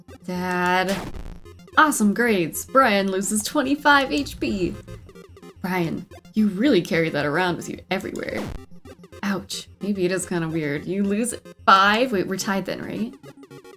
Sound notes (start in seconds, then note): none